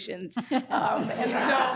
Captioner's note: all laughing